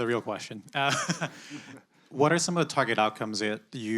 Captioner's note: laughs